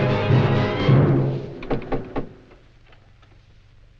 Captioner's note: knocking at door